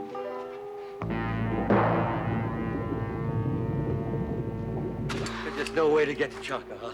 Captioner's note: dramatic ominous music; geyser gurgling